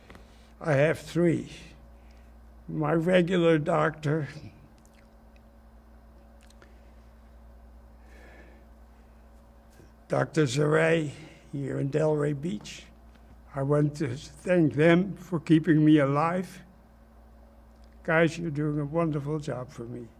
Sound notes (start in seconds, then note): 4.5 pauses 6 seconds